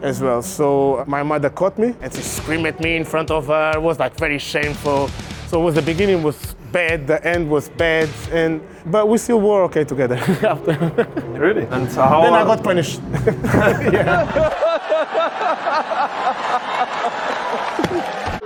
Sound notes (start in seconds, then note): 10.2 laughs; 16.3 laughter